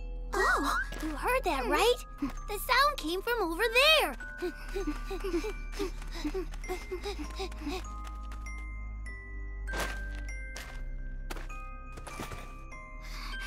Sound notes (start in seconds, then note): 4.5 all grunting; 9.7 rustling